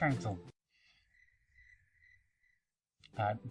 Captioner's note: crickets chirp